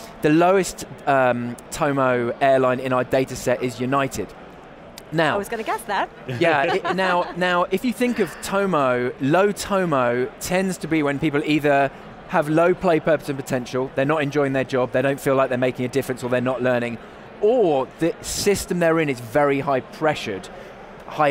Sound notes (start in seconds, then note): 6.4 laughter